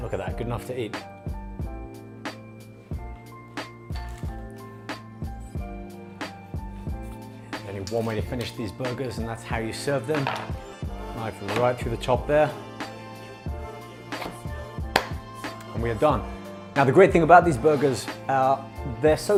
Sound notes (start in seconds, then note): 2.1 upbeat R&B music; 14.9 claps